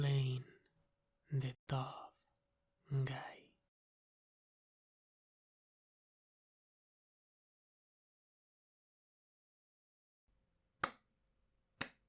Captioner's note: slow clap